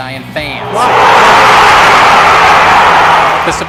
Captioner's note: fans cheering